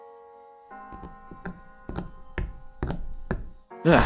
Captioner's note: ernest's footsteps approach